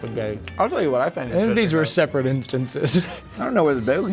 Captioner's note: laughs